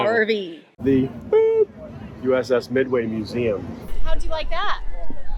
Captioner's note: beeps